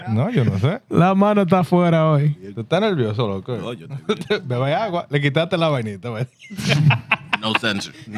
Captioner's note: laughter; speaking Spanish